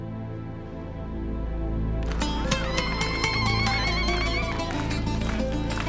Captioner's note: women trilling zaghareet; cheering